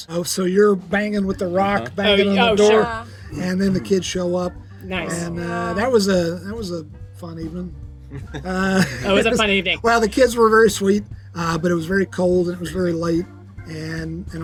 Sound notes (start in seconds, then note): 8.1 group laughs